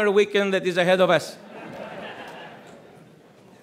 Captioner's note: audience chuckles